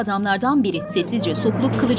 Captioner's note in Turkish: Baykuş sesi